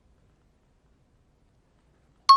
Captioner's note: out of time alarm